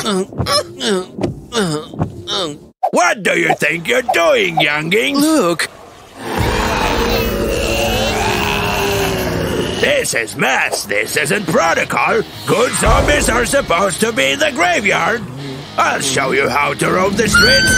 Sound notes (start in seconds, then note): 0.0 short repetitive cries of pain; 5.8 hum of a big crowd of zombies